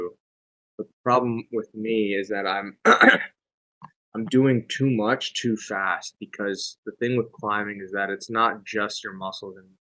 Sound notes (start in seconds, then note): 2.8 coughs